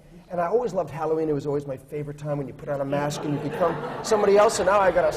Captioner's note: laughter